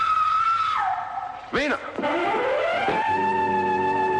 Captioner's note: screaming